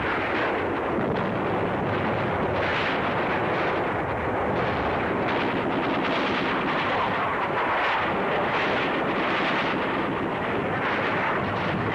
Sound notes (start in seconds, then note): 5.5 guns firing